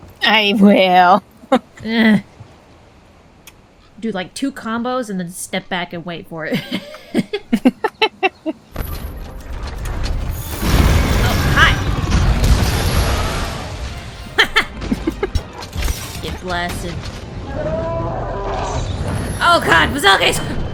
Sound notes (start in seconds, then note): 1.4 laughs; 1.9 groans in low-rank capturing difficulty; 6.5 snickers; 6.5 chuckles; 14.2 chuckles; 14.3 laughs in blood